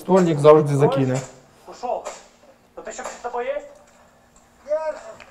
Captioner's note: voices